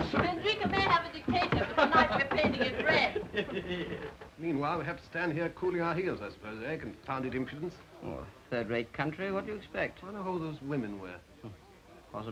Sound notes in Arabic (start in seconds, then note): 3.1 بوريس يضحك; 8.2 يتأوه